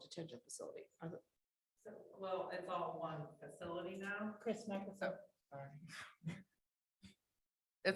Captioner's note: off microphone